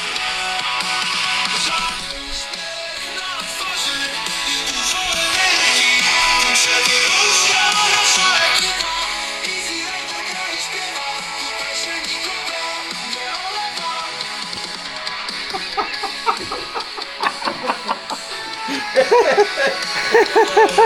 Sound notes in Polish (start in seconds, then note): 14.5 śmiech; 14.9 Aplauz